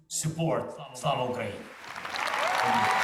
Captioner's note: Volodymyr speaks in foreign language; students cheering and applauding